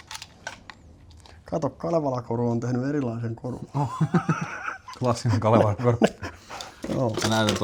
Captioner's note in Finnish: naurua